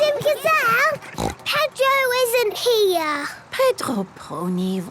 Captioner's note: snort